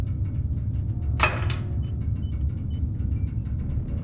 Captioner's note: can thuds; walls creak